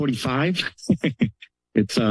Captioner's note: laugh